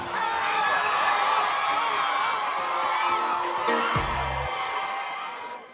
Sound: more cheering

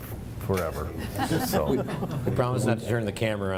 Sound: laughter

